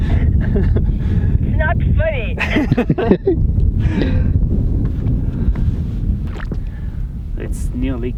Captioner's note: chuckles